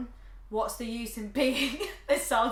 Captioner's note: laughs